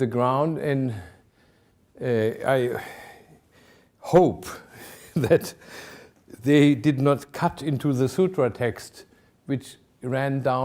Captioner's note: chuckling